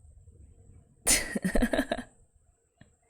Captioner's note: laughs